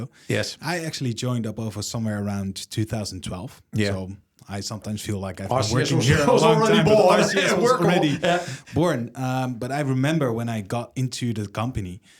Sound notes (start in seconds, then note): 8.2 laughs